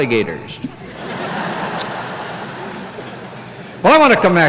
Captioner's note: laughter